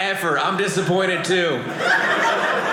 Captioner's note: audience laughing